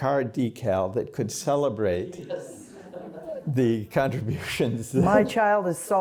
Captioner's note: laughter